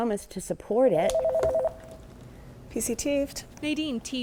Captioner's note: telephone rings